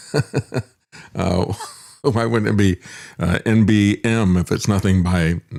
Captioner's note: laughs